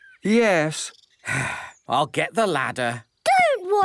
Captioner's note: sigh